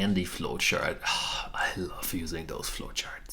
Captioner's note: baker sighs